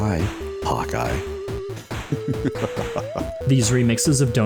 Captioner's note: evil laugh